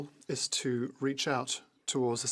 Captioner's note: speaking French